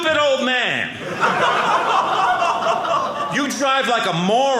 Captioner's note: audience laughing